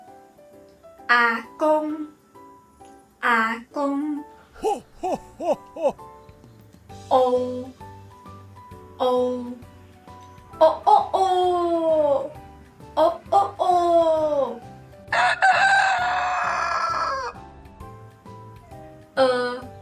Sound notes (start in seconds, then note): 10.2 rooster crows